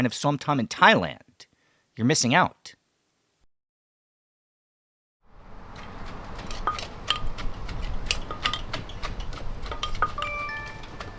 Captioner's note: ambient Sound- Som Tam Making